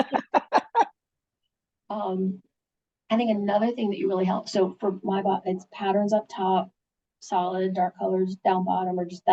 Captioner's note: laughing